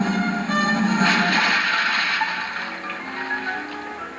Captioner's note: splash